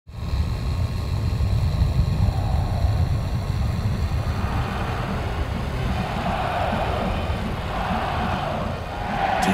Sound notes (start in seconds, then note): 0.1 engine roaring; 4.1 crowd cheering